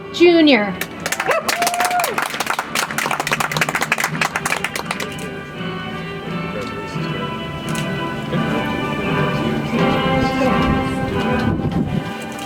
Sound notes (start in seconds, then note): 0.8 audience applauds; 4.7 soft music